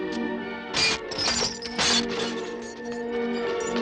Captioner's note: glass clatters